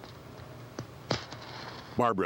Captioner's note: match striking